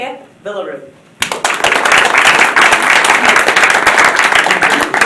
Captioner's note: applause